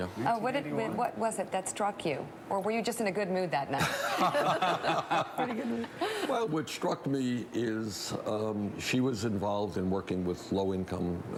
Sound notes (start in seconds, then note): 3.8 laughs